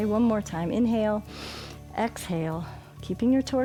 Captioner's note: inhales